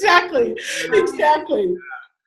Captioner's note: laughter